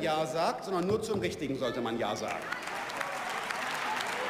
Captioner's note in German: Beifall